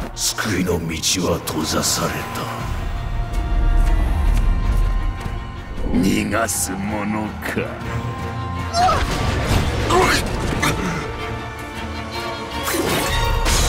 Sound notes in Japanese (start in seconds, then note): 8.6 やられる声